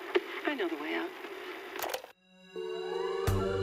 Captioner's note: smooth music; tape stops